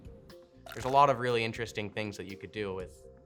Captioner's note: chomp